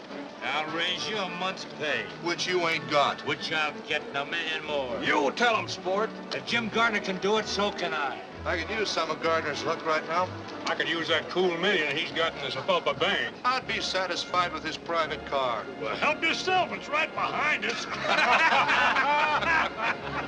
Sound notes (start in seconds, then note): 17.6 laughter